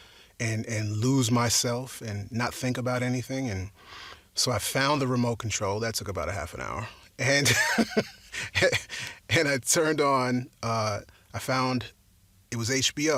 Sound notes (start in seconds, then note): 7.5 laughs